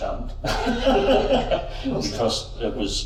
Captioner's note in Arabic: يضحك